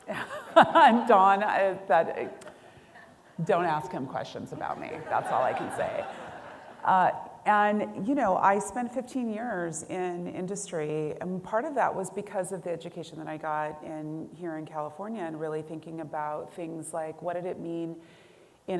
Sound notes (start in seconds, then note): 0.0 laughing; 4.6 audience laughing